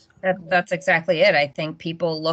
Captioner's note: none